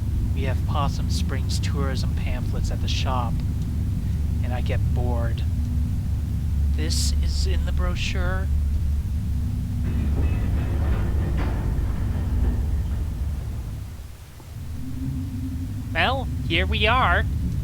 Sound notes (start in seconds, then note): 10.1 elevator clanking